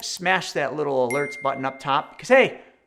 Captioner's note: bell dings